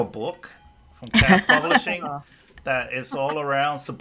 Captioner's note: laughs